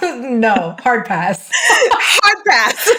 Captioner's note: laughs